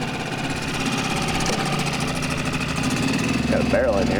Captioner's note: boat motor rumbling